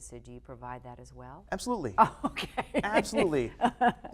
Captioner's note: laughing